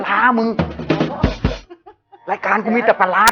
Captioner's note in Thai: หัวเราะ